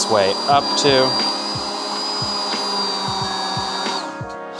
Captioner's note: blender buzzing